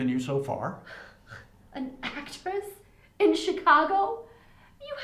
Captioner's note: scoffs